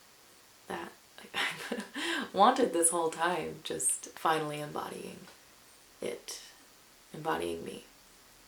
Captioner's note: chuckles